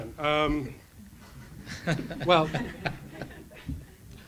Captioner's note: crowd and panel laughs loudly